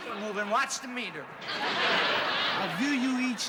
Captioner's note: laughter